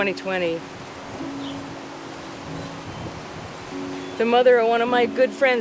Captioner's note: piano music; wind whooshing